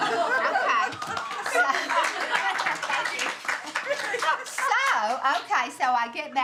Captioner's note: all laughing and applauding